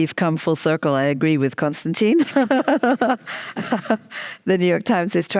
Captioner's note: chuckles